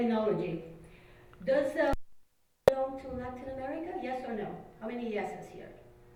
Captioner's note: mic cuts out